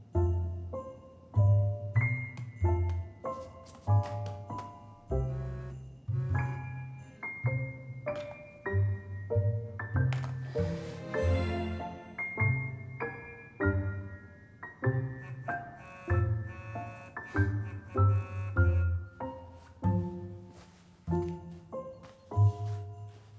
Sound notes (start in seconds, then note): 0.2 jaunty Christmas music; 5.2 phone buzzing; 5.7 jaunty Christmas music; 11.9 jaunty Christmas music; 11.9 phone buzzing; 16.6 jaunty Christmas music; 16.6 phone buzzing; 19.7 jaunty Christmas music